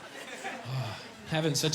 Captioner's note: sighing happily